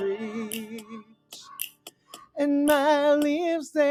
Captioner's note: raven caws